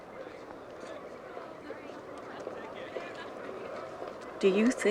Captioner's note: students chattering